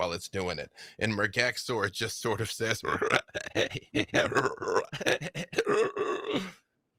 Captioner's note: croaking laughter